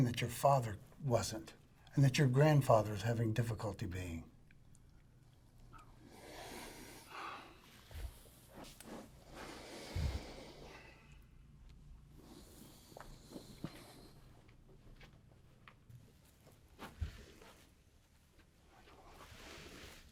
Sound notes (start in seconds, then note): 6.2 sighs